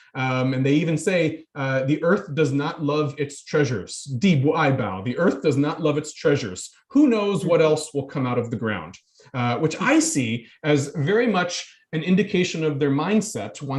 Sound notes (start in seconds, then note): 4.3 speaking in foreign language